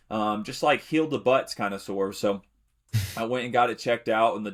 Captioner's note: chuckles